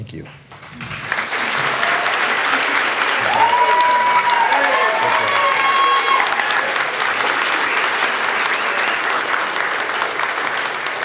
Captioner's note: audience applauding